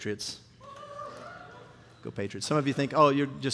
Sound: congregant cheering

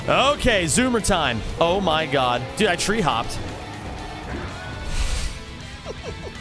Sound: laughs

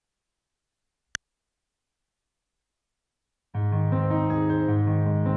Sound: faded click; relaxing music

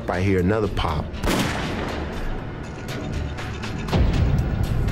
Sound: gun shot firing

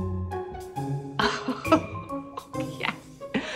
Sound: laughing

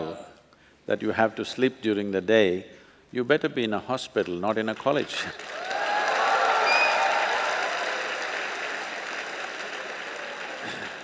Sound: applause

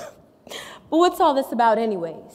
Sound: laughs

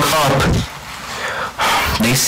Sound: angery sigh

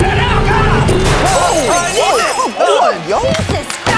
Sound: audience shocked

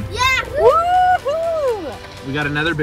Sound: cheers

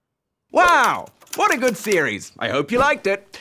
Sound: typewriter keys clack

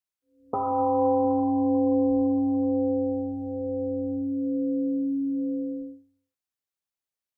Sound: 🎵 Temple gong rings and fades 🎵

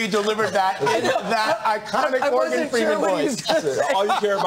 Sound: laughter

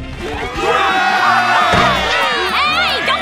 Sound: cheering

